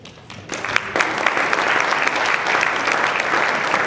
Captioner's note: applause